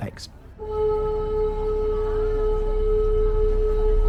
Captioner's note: ships horn sounding